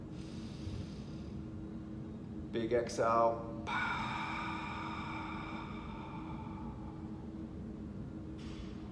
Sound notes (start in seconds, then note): 0.2 inhaling; 3.6 exhales